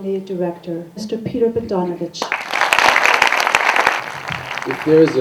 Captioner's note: applause